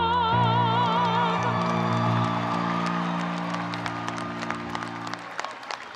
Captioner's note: audience cheering and applauding